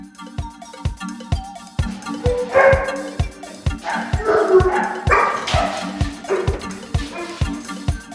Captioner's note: dog barking